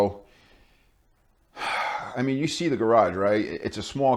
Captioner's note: sigh